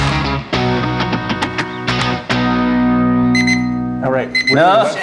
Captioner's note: beeping